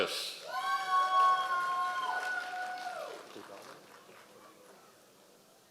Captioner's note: members of the audience cheering